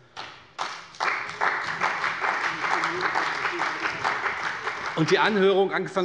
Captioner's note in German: Beifall bei der CDU und dem BÜNDNIS 90/DIE GRÜNEN